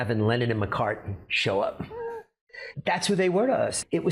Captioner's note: bennett gasping